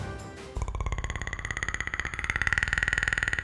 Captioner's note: growl